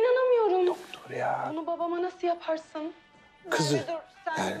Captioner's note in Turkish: TV kadın ses